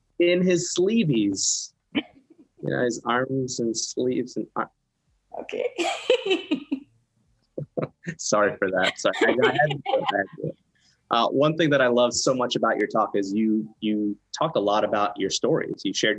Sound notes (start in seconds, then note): 7.6 laughs; 10.6 murmurs